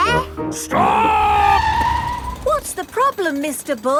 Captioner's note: tires screeching